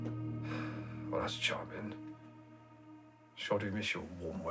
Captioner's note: Van Helsing sighing